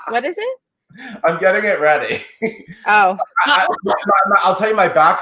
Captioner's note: laughs